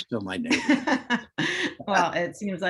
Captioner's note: laughs